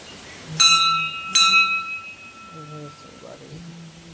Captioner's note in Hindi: घंटी की आवाज़